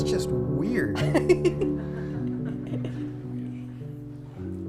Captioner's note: laughing